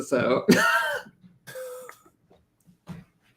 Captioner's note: laughter